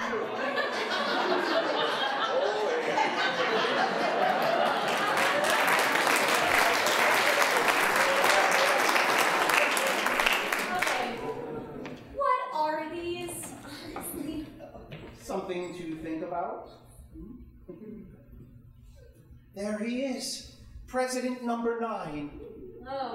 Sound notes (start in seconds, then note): 0.2 audience laughing; 4.2 applause